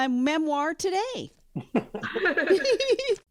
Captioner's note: everyone laughs